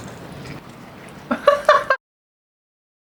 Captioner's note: laughter